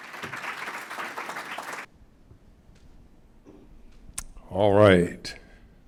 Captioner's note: applause